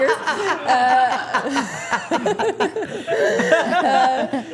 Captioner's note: everyone laughing